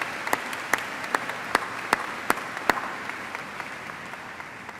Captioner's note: cheers and applause